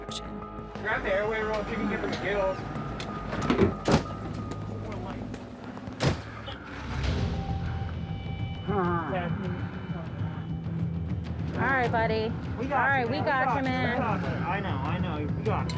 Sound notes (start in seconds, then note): 6.3 suspenseful music playing; 9.1 pained breathing